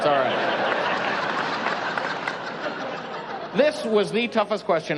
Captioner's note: laughing